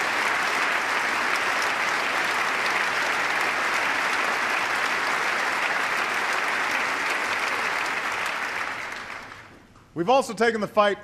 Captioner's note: applause